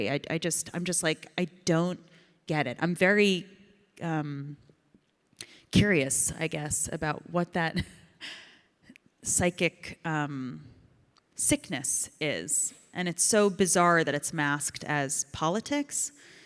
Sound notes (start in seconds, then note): 8.3 Ilana laughs